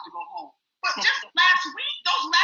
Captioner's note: chuckles